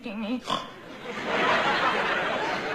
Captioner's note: snorts